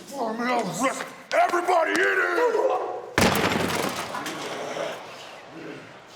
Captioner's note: Strowman speaking faintly